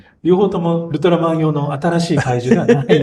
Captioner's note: laughs